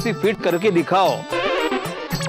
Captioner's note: laughing